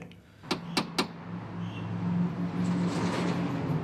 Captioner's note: knocking